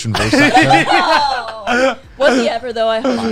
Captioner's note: laughing